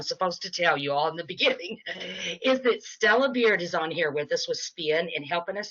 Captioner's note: laughing